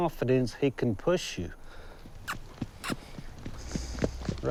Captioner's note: smacking lips